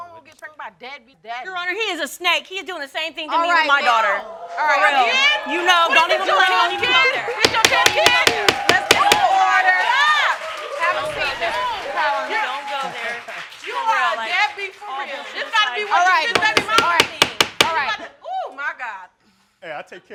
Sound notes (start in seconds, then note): 4.9 crowd oohing; 5.9 all yelling; 7.4 bangs gavel; 16.3 bangs gavel